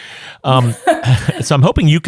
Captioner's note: chuckles